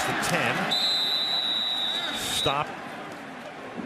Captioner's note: whistle blows